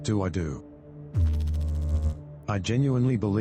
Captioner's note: electrical noise